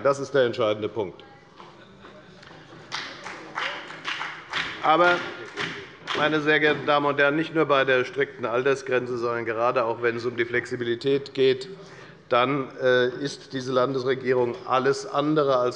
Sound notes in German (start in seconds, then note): 2.7 Beifall bei der FDP